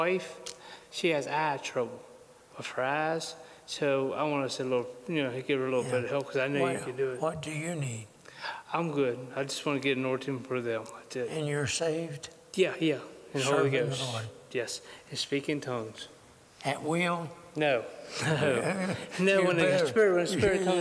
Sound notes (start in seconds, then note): 18.2 laughter